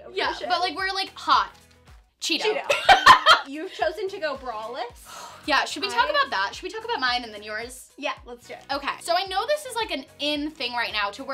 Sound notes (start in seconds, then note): 2.6 laughing; 5.0 exhaling